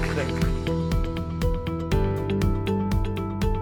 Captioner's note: cheers and applause